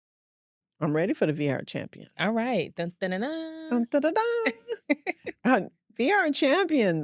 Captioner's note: imitates fanfare